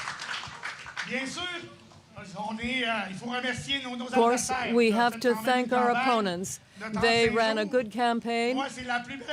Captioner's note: cheering and Applause